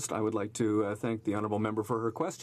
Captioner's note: speaking French